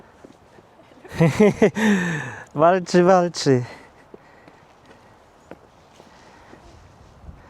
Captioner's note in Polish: śmiech